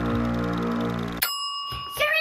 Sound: ding

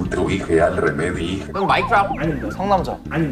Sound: again, shouting out wrong answers

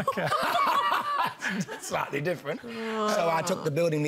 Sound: laughs loudly

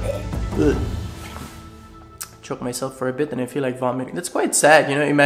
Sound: vomit feeling sounds

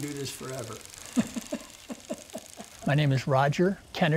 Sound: laughing

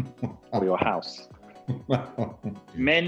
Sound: Graham laughing

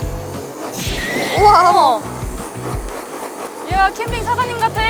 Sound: fire

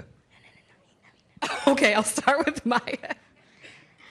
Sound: laughs

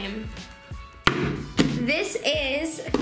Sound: banging

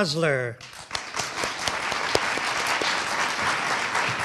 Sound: audience applauding

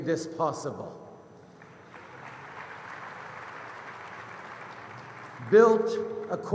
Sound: applause

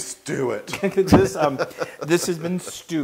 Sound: laugh

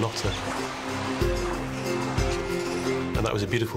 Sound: chirping

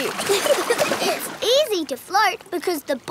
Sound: giggling

